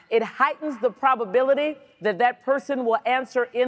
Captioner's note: none